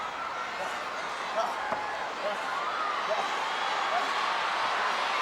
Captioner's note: wrestlers grunting